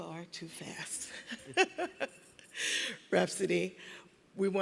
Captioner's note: laughing